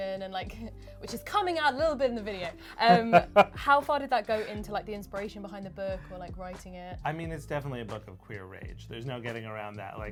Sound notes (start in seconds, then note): 2.8 laughs